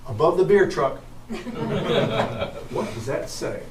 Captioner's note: audience chuckling